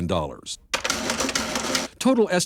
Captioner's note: adding machine clicking